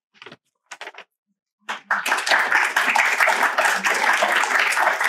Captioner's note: applause